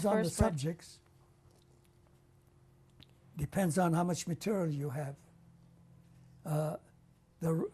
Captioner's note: pauses for 3 seconds